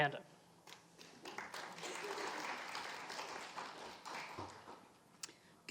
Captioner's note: audience applauding